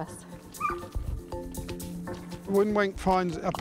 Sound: barking

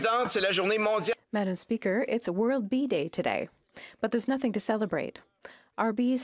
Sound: speaking French

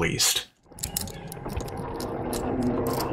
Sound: sounds of a lock jingling

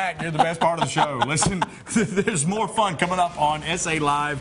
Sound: laughter

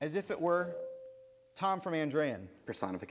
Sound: ding

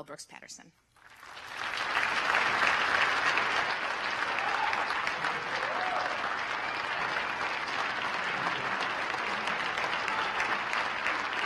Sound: applause

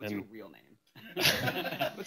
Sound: laughter

